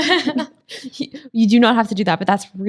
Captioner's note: ladies laughing; laughs